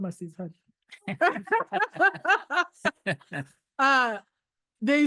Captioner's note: laughing